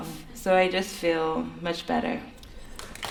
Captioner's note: applause